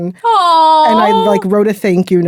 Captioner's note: exclaiming in adoration